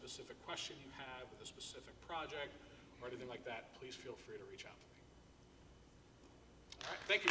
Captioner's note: applause